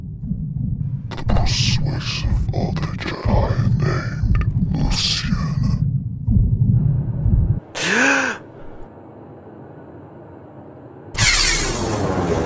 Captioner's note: voice echoed